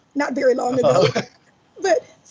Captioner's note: laughs